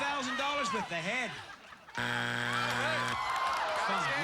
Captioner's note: buzzer